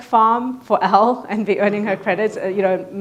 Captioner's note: laughs